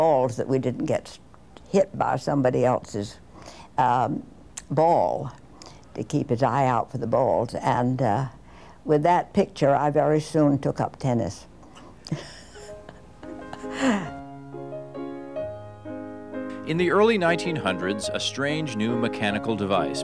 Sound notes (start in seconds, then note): 12.0 laughs; 12.6 lively music